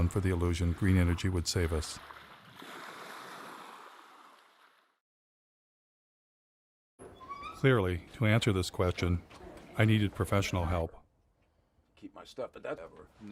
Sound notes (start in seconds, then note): 7.0 gıcırdayan kapı